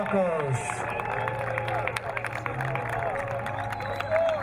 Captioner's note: crowd cheering